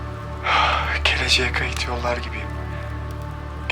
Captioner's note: sighs